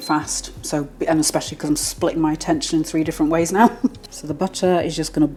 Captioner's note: laugh